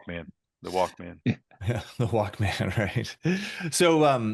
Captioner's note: laughing